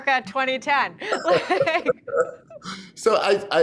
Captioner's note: both laugh